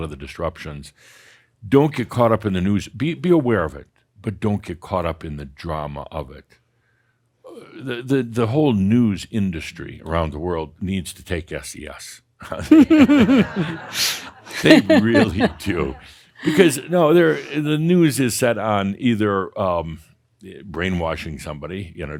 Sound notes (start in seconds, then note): 12.4 laughter